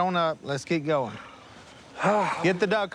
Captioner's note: sighs